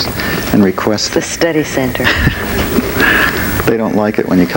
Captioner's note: Frank laughs